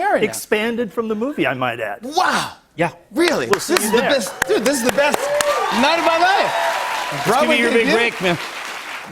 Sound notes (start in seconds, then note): 6.1 cheers and applause